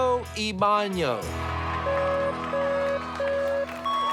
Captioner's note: beeping